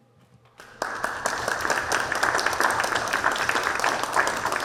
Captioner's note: audience applauding